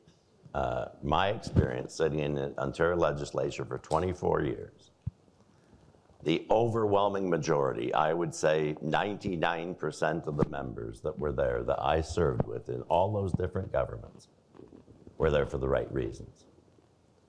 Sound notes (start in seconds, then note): none